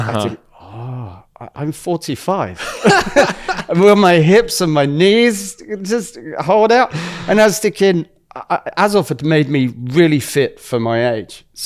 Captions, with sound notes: Uh-huh. I think, "Oh, I, I'm 45." [laughs] [laughs] "Will my hips and my knees just hold out?" [laughs] And as the king, a- a- Azov had made me really fit for my age. Mm-hmm.